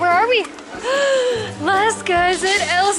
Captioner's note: gasps